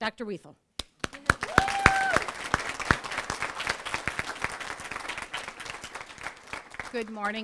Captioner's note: applause